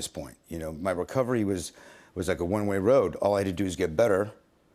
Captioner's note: none